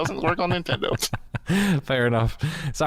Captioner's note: laughter